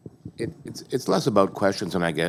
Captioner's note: voiceover